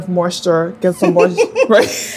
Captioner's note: laughing